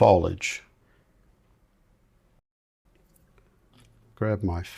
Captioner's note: silence